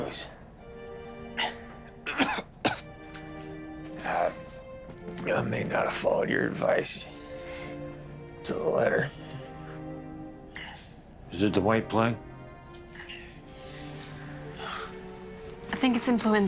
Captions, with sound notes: HEY SUSAN. [COUGHING] I MAY NOT HAVE FOLLOWED YOUR ADVICE TO THE LETTER. IS IT THE WHITE PLAGUE?